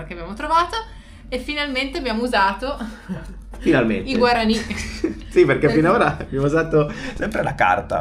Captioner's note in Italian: risate